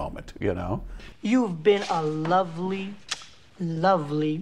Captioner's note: lips smack